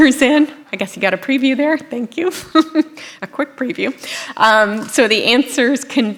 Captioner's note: laughter